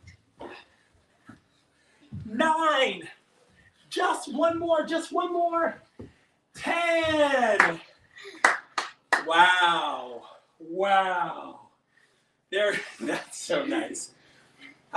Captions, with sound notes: nine, just one more! 10! (claps) Wow, wow! That's so nice.